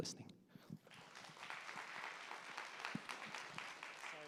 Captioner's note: applause